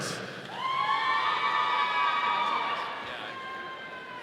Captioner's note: audience cheering